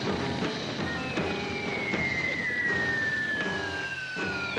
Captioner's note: bombs whistling